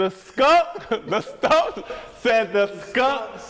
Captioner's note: laughing